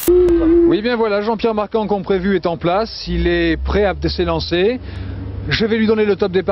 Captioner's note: speaking in foreign language